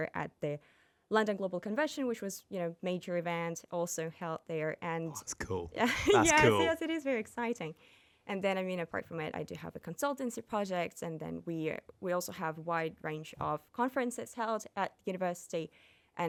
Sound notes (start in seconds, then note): 5.8 laughing